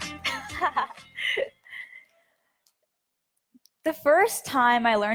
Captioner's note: laughs